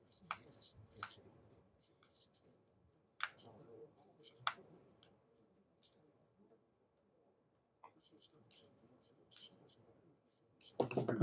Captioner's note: silence